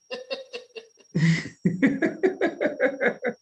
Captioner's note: laughs